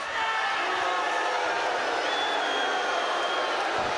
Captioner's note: audience booing